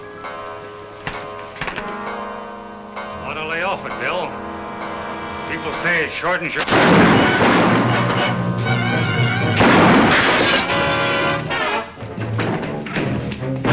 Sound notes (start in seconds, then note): 0.2 clock chimes; 5.5 speaker cut off by gun banging; 7.5 exciting music; 7.5 gun bangs